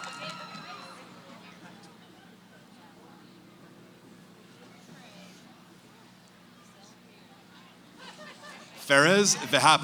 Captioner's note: cheering; background conversations